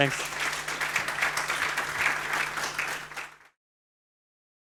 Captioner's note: applause